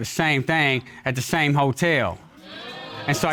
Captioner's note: audience exclaims